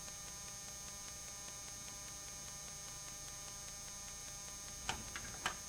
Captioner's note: static